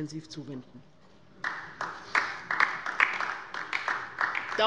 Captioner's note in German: Beifall bei der LINKEN